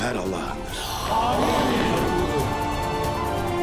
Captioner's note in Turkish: Hep bir ağızdan